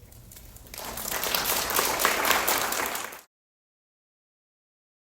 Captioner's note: applause